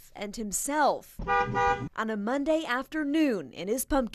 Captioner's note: bus horn honks